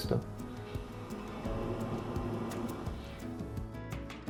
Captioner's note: water intensifies